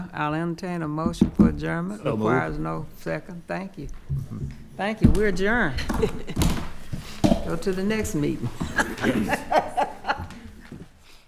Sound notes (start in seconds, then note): 5.0 hits table; 8.5 laughing